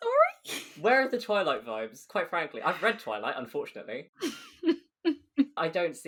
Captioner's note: laughs